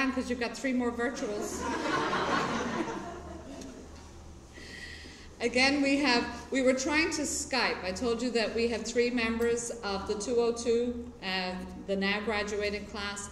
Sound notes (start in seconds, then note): 1.4 laughter